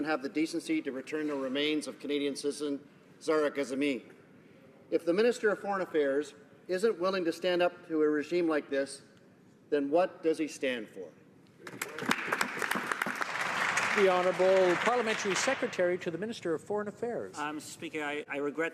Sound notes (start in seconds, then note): 14.8 some Applause